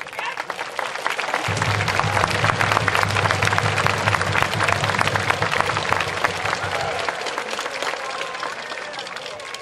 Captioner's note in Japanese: 拍手・太鼓応援